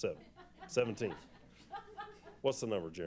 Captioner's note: laughter